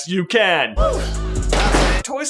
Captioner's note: thud